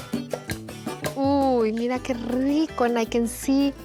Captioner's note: speaking Spanish